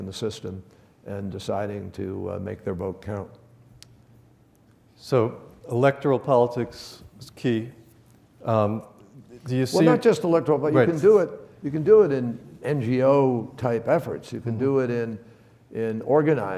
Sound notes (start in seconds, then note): none